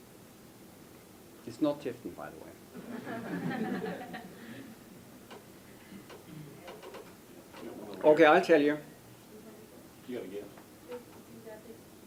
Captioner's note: laughter